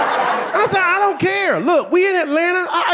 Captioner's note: audience laughing